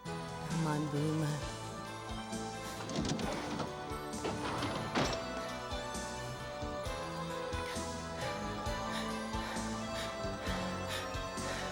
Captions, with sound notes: or am I Boomer? (breathes heavily)